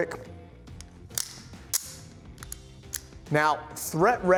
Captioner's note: magazine clicks